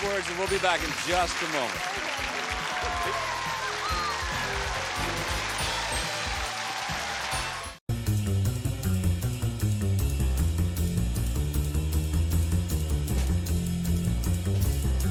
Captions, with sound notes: and right now we're gonna pause for these words and we'll be back in just a moment. (audience applauds) (theme music playing)